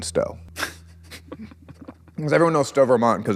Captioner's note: laughs